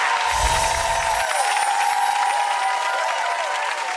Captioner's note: audience applause